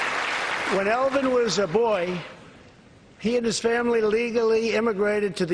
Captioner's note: applause